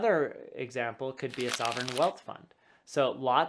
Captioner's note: paper rubbing